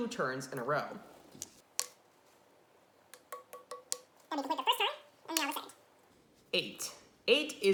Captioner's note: fast Forwarded Sounds